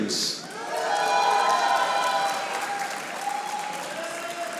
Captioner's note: audience applauding